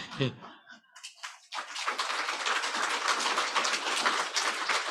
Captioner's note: crowd applauds